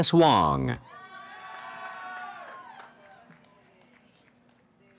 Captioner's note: cheering